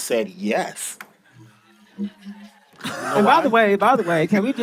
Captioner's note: audience laughing